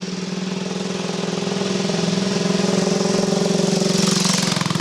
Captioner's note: motorbike engine rattling